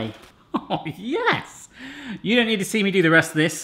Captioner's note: laughing